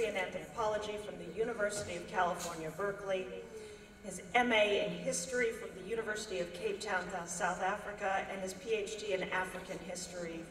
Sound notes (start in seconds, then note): none